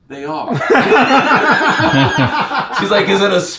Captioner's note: John laughs